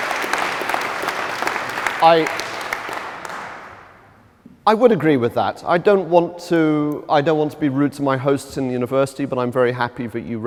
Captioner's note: applause